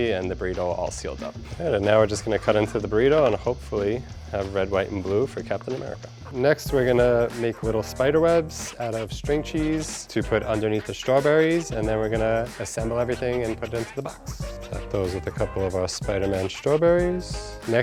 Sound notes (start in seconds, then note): none